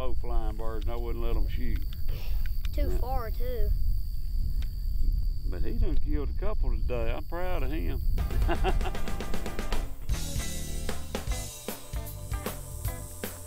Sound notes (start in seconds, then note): 8.4 laughing; 8.8 upbeat jazz music